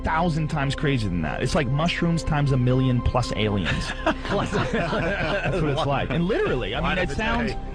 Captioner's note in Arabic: يضحك